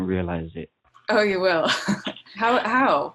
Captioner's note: laughs